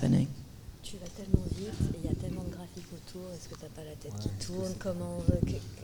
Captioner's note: speaking in French